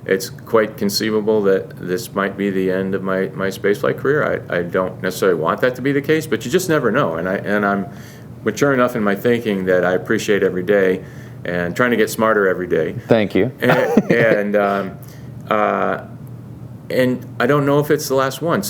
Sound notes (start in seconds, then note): 13.6 laughs